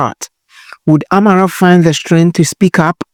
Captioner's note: voiceover